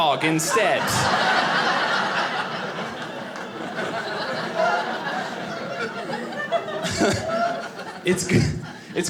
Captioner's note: audience laughing